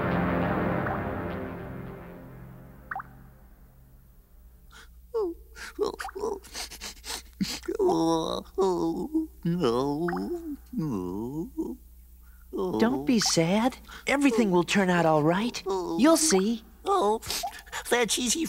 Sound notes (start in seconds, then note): 1.1 dripping; 3.8 creature crying